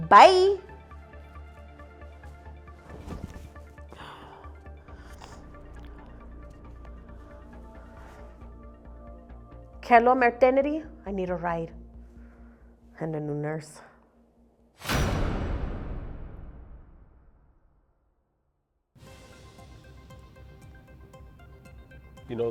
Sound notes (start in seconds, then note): 1.7 tense synth music; 3.9 Carlotta sighs; 15.6 thud echoes; 19.0 soft dramatic music